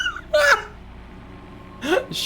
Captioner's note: laughs